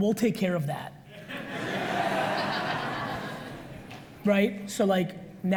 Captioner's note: audience laughs